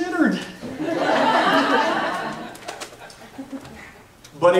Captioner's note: laughs